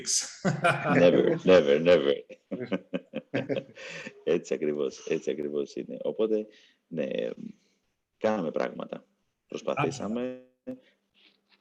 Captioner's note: laughs